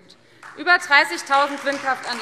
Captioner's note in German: Beifall Freie Demokraten